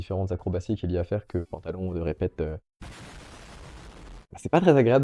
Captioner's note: explosion